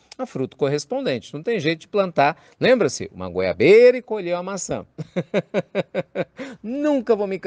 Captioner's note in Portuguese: risos